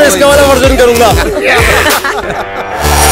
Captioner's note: Everyone laughing